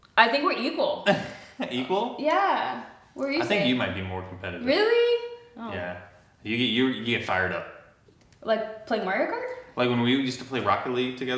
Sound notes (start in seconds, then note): 1.0 chuckles